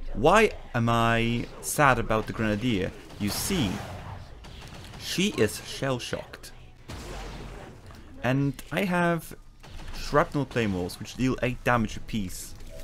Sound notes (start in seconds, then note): none